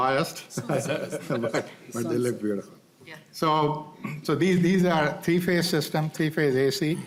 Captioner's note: laughter